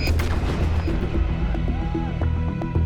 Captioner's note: explosion blasting